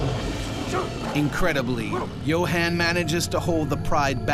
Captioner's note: voiceover